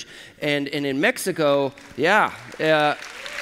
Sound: applause

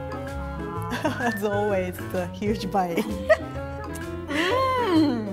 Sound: laughing

